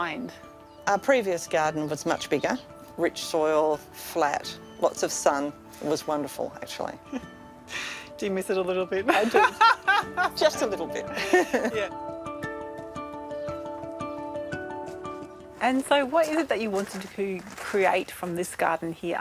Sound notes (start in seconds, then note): 6.5 chuckles; 11.1 laughs